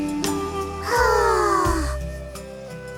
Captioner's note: sigh